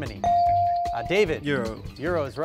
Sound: device dings

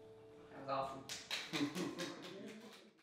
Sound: distant clapping

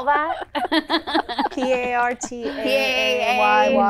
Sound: laughing

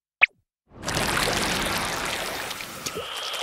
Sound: swim noises; more swimming noises

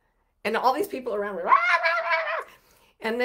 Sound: mimics screaming

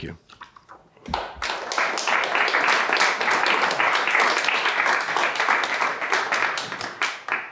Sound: applause

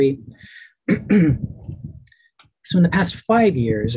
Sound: clears throat

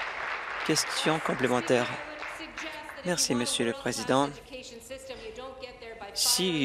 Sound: applause

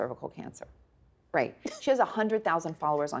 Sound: scoffing

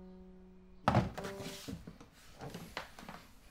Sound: loud thud

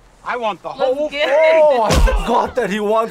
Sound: laughs

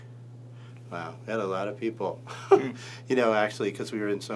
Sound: laughs

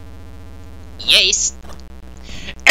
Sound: shitty Luigi voice

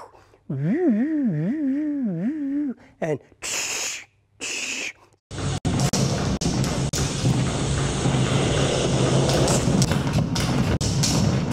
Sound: body movement sounds

